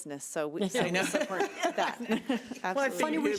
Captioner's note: laughing